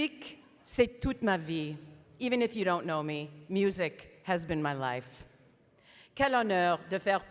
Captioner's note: speaking French